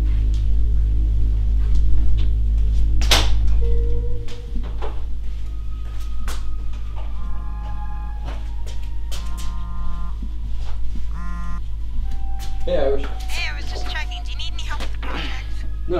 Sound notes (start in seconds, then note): 6.3 cellphone vibrating